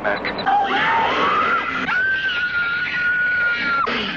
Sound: screaming

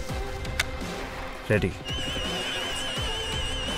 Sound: sirens

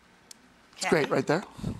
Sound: chalk snapping

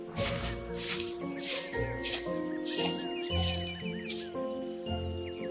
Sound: leaves crunching

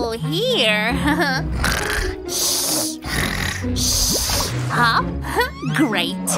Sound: snoring

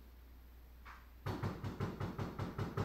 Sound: knock, knock, knock, knock; knock, knock, knock, knock, knock

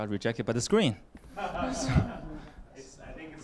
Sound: laughter

